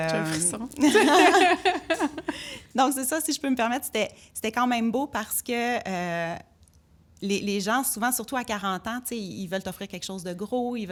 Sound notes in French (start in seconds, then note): 0.8 rires